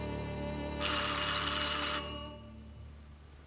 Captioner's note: doorbell rings